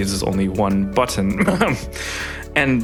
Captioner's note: cough